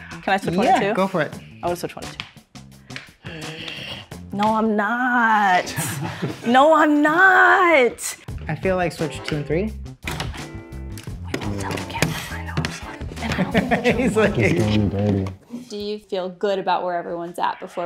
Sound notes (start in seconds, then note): 10.4 paper ripping; 13.2 laughs